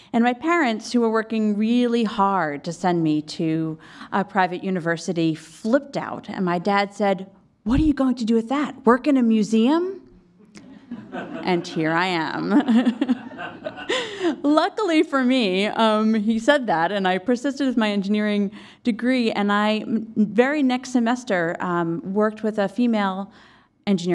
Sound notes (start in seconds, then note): 12.5 laughs